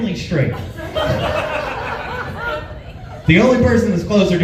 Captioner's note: laughs